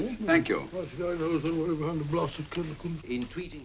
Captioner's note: mumbling to self